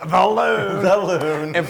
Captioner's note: laugh